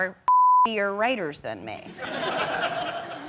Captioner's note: audience laughing